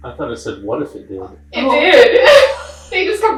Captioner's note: laughing